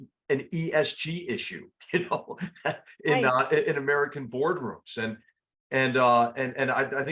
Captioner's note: laugh